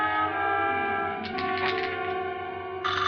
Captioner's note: dice clicking; phone ringing